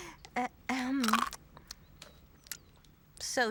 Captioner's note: crunch